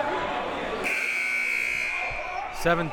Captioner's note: buzzer